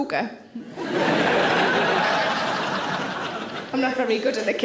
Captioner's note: audience laughing